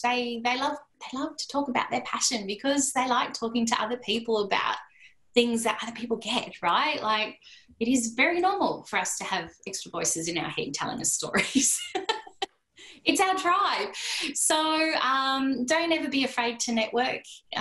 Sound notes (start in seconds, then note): 11.4 laughter